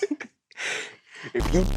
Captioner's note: giggles; inhales